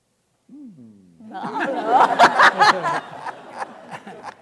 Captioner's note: audience laughing